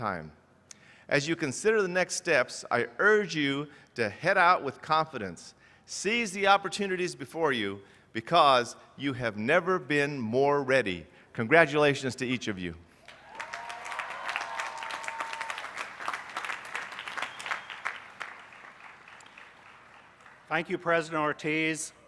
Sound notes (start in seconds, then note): 16.6 applause